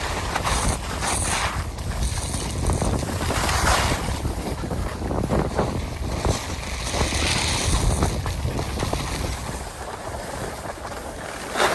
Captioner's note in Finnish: tuulen kohinaa